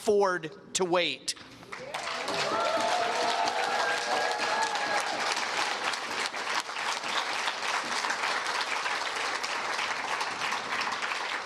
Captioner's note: cheers and Applause